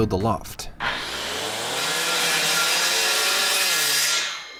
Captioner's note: tools whirring